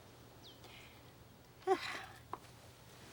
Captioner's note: sighing